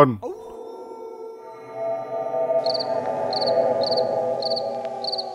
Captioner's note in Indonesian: Lonceng